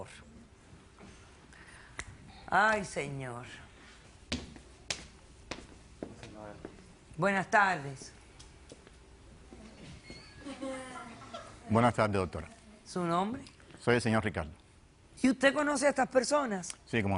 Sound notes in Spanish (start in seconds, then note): 10.3 Risas